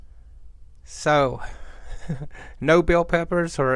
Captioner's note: chuckles